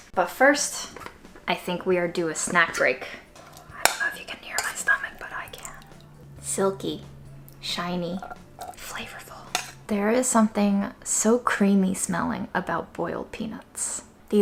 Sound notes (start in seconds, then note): 9.4 peanuts tapping